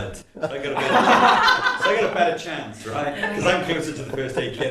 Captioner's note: laughter